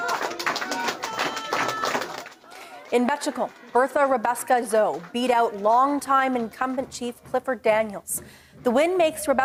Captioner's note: applause